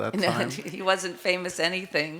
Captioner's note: laughs